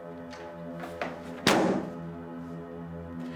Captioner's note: slamming door